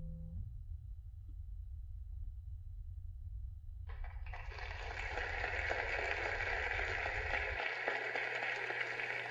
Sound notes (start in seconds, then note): 3.9 applause